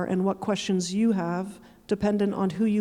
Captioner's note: none